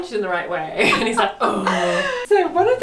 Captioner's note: groans